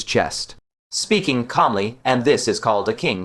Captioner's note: speaking calmly